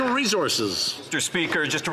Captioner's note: some Applause